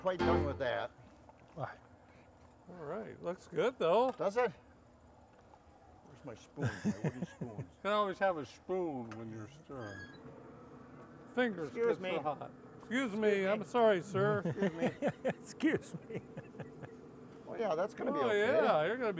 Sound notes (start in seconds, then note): 6.6 laughing; 9.7 metal creaking; 12.5 laughing